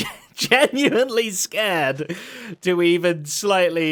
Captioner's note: chuckles